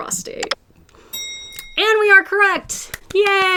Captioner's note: bell dings